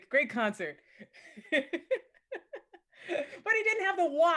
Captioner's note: laughs jovially